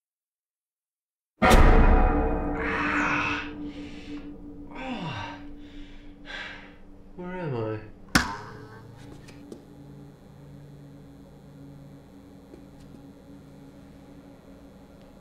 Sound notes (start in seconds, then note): 1.6 eerie music; 2.7 Jack groaning; 8.2 electricity buzzes